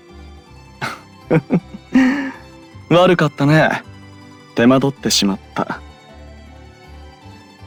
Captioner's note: laugh